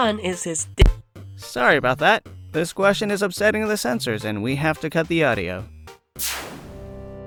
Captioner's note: audio plug being pulled